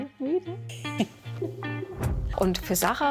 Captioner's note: chuckling